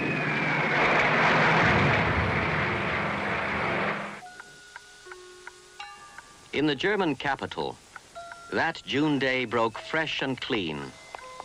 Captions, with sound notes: (airplane engines roaring) (clock ticking) In the German capital, that June day broke fresh and clean,